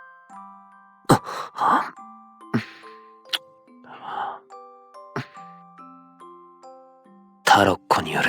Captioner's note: kiss